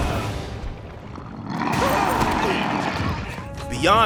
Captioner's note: growling